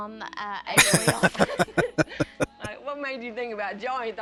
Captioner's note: laughing